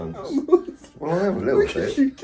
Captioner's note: giggles